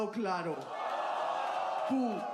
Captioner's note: cheers